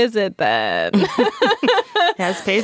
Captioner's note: group laughing